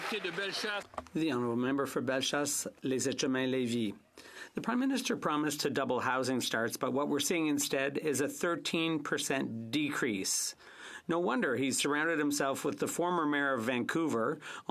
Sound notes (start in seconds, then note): 4.3 speaking French